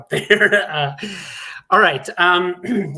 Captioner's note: laughs